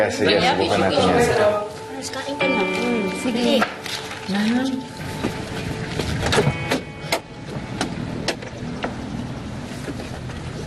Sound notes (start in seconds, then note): 4.1 music fades; 6.2 car door opens